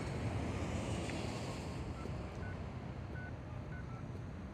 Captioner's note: phone beeps and dials